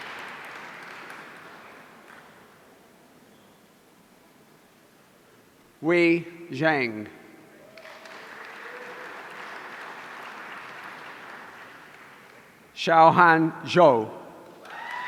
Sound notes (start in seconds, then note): 7.6 audience applauding; 14.6 audience cheering